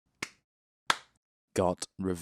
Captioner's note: clap